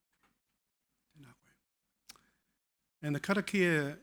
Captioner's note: speaking foreign language